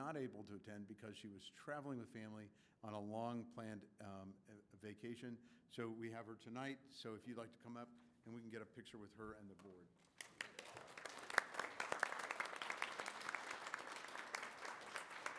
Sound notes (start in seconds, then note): 10.0 applause